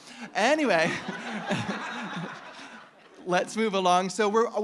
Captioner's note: audience laughing